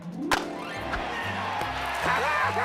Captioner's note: cheers and applause